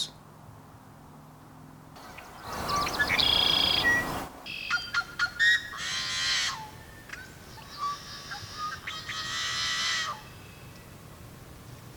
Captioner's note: blackbirds calling